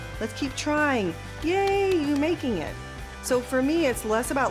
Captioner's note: clapping